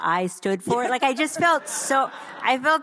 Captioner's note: audience laughs